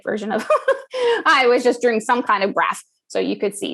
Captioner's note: laugh